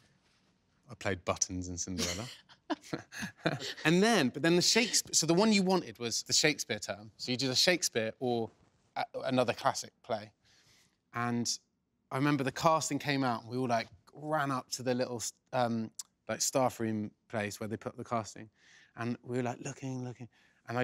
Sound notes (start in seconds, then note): 2.7 laughing